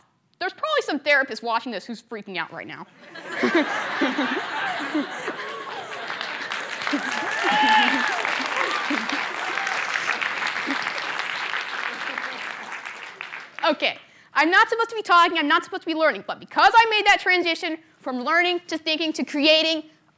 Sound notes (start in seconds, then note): 2.9 laughter; 2.9 applause; 3.4 cheers